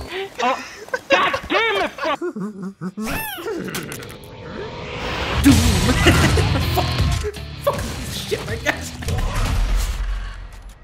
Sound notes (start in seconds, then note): 0.4 everyone laughing; 5.4 chuckling